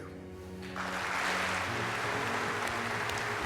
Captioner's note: applause